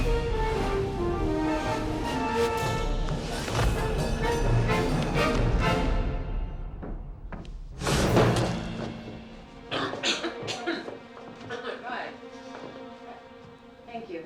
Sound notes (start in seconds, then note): 0.1 lighthearted music; 9.6 coughing